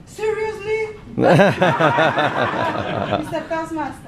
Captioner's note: laughing